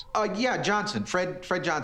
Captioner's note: on phone